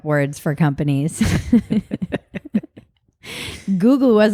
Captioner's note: both laugh